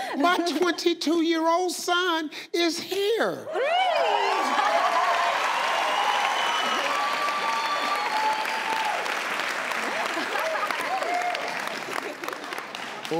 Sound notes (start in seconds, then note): 4.6 audience cheering; 10.2 audience clapping